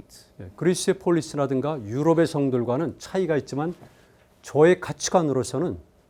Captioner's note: speaking in Korean